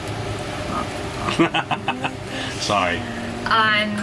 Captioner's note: laughing